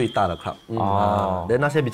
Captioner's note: Ohh